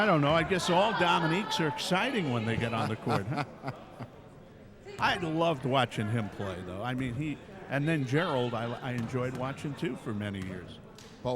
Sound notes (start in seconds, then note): 2.7 laughing